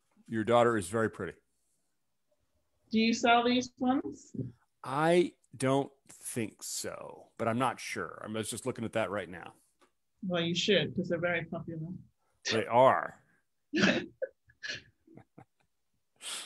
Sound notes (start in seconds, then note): 14.5 chuckles